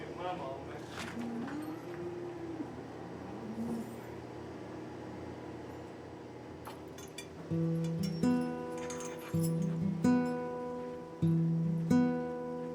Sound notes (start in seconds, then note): 8.7 stanchion clinking; 9.8 mournful music